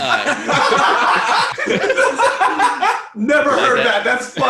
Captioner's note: laughter